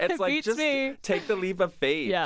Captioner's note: chuckles; laughs